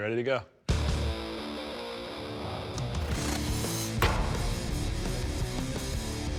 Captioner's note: metal clanging against butcher block